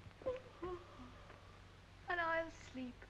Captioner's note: yawns